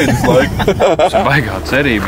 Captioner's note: laughs